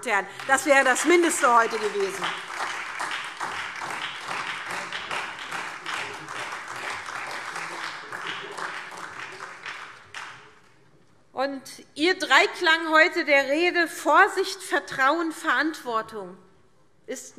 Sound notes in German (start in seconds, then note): 2.6 Beifall